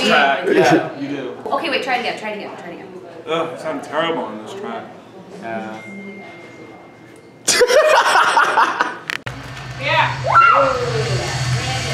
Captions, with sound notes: Okay try again. --Ugh I sound terrible on this track. --Yeah [laughs]